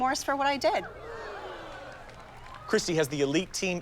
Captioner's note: audience groaning, scattered applause and cheering